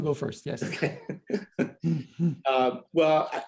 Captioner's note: laughter